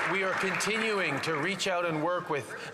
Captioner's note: some Applause